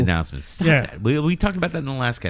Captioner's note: uh